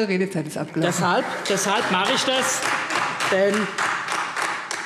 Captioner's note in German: Demonstrativer Beifall AfD und Freie Demokraten